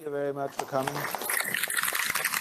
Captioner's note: applause